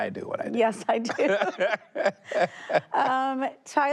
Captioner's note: both laughing